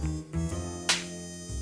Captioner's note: smacking noise